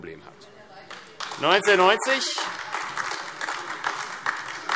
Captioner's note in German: Beifall AfD